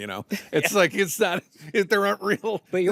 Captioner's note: chuckles